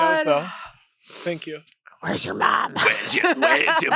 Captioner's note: laughs